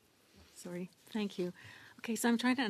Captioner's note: speaking French